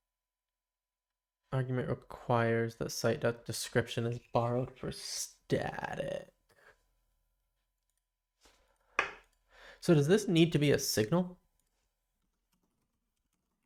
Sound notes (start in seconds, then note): 6.8 silence